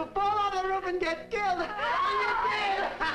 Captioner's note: screams